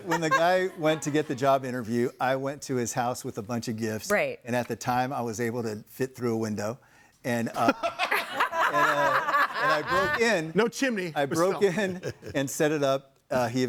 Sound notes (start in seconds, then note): 7.8 laughs; 8.0 audience laughing